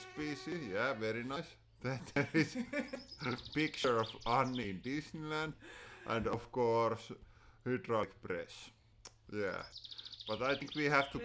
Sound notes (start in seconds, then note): 0.0 flies buzzing; 1.9 both laughing